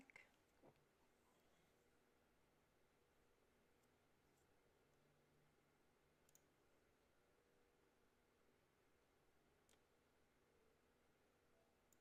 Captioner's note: mouse and keyboard clicking